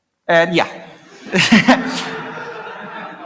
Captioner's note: laughter